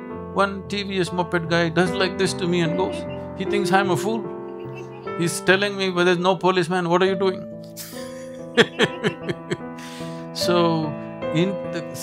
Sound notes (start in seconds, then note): 7.8 laughs